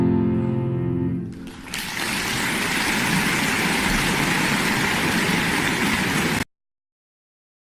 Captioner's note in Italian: applauso